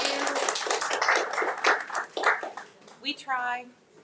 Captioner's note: audience applauds